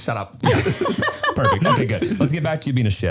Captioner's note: laughing